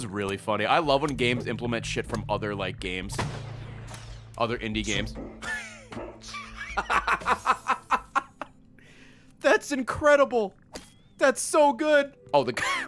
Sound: laughs

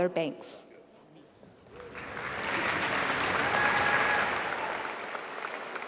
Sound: applause

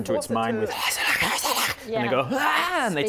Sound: speaks in tongues

